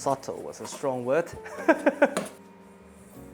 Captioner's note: laughs